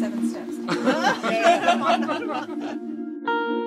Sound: laughter

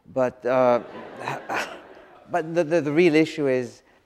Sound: audience laughs

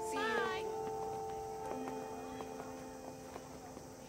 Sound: school bell ringing; indistinct chatter

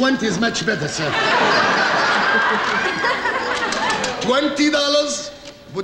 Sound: audience laughing

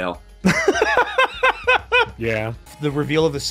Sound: laughs

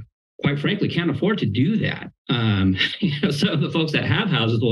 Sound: chuckles

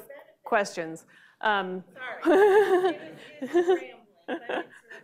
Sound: laughing

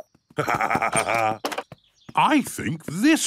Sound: laughs

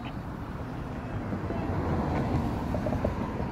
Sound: yelling

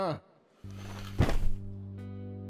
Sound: shouting; curtains opening and closing

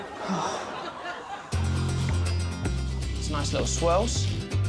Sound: sighs heavily

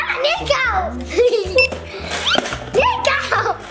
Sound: scanner beeps

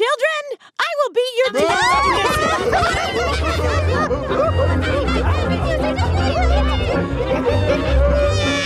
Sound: multiple loud voices

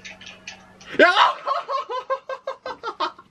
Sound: laughing

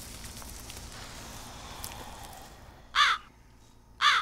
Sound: birds chirping; foliage crumbling; James sighing; birds squawking; tense ominous music

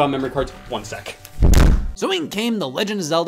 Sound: door slams

